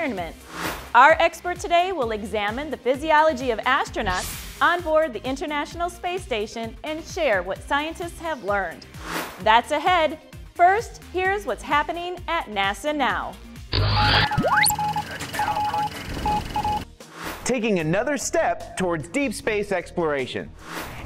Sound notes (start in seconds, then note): 13.7 sound Effects